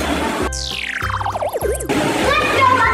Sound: futuristic chime

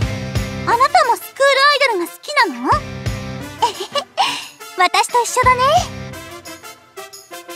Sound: giggles

